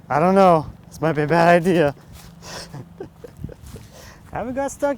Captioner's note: laughing